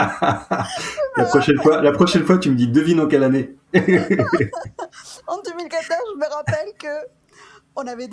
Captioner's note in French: rires